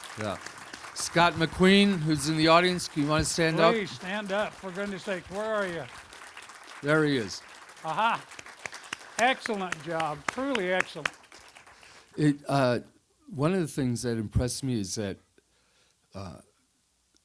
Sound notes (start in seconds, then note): 11.3 audience applause